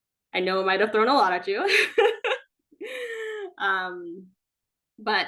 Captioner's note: laughing